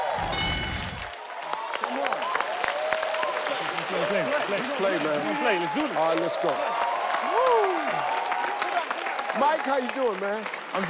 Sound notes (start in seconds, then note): 0.2 ding sound; 7.4 all cheer